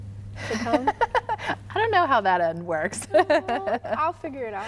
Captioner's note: laughing